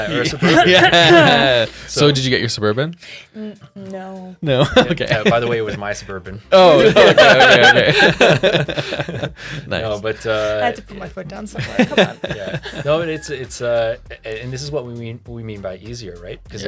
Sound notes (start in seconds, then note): 6.6 all laughing